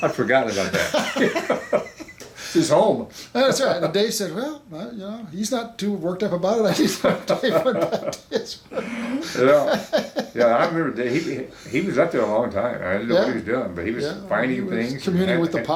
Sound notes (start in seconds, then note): 6.7 both laughing